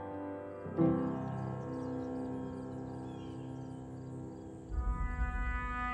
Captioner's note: old time music; birds chirping sweetly; intense music